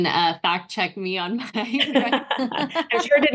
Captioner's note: laughter